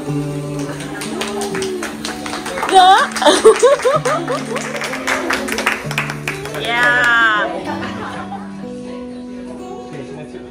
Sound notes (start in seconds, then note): 0.0 laugh; 2.8 claps; 2.8 laugh; 9.4 background music